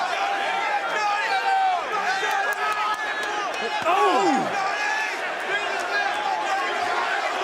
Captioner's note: crowd cheering